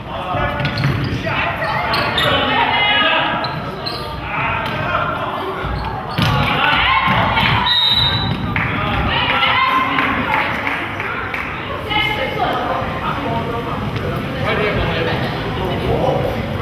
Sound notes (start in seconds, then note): 7.6 whistle blows; 10.4 crowd claps